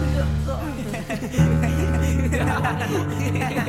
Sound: laughing

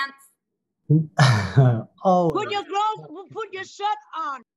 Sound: laughs

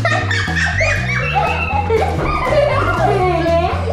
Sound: lively music; laughing

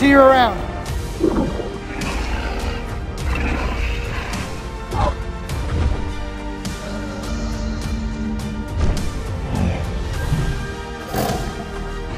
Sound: Bumpy growls

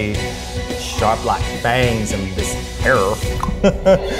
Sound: clicks tongue; laughs

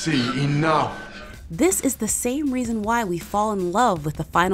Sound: voiceover

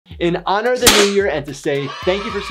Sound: confetti pops

